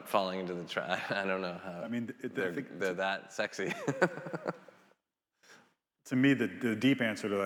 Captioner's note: laughs